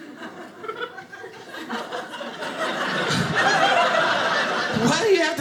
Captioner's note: audience laughing